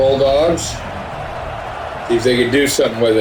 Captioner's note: crowd Noises